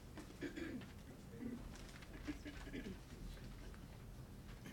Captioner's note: clears throat